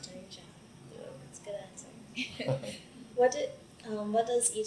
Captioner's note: both laugh